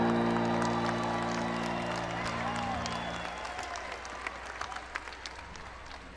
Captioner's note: audience cheering; audience clapping